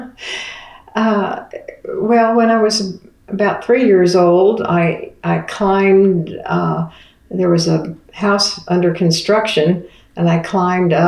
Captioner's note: laughs